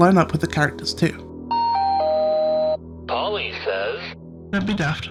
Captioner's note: announcement noise